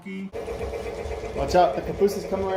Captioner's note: train sounds